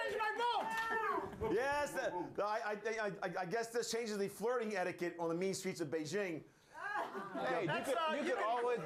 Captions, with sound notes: - YOU CAN BUY THESE IN CHINA! [All cheer] - IT'S A GOOD THING I DIDN'T CHANGE MY VOTE. - YES, I GUESS THIS CHANGES THE FLIRTING ETIQUETTE ON THE MEAN STREETS OF BEIJING.